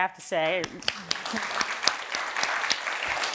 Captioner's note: applause